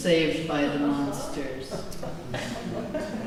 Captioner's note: laughter